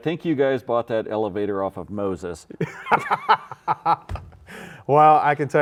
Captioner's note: laughs